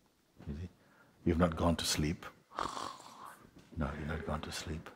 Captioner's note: makes snoring sound